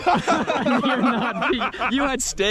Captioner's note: men laughing